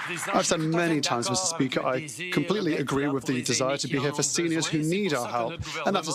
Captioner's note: some Applause